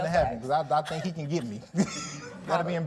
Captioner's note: laughs